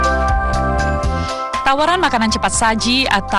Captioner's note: non-english speech